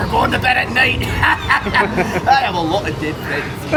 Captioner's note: laughs heartily